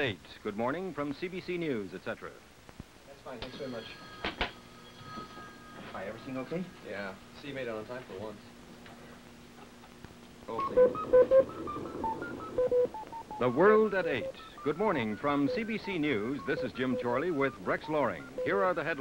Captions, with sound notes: from CBC News, etcetera.:00g That's fine. Thanks very much. [phone rings] Hi, everything okay? Yeah. See you made it on time for once. [computer bleeps] The World at 8:00, good morning from CBC News, this is Jim Chorley with Rex Loring,